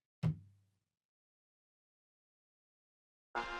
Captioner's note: none